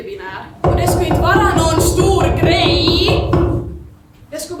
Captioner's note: knocking sound